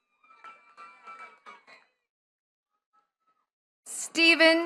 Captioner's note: attendees cheering and clapping